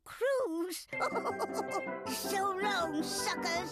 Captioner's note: laughing